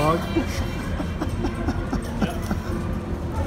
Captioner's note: laughs